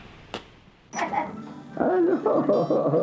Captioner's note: laughter